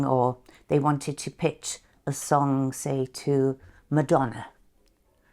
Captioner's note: none